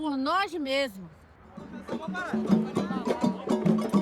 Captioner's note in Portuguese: Falatório